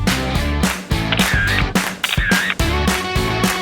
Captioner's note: camera sounds